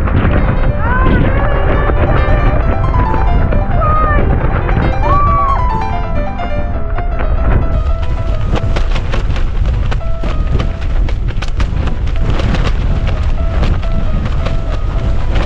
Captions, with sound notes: Arghh nearly nearly nearly! Christ! *screams* *tent flapping around* *wind gusting*